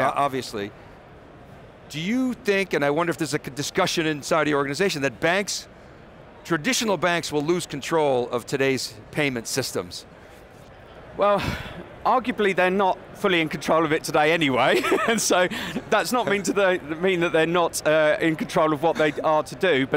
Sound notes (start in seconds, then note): 14.7 laughs